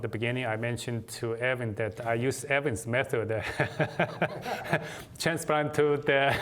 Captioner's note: laughter